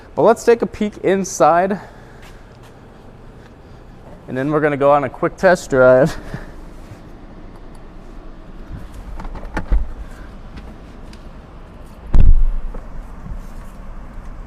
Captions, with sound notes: But, let's take a peek inside. And then, we're gonna go on a quick test drive. (low thud)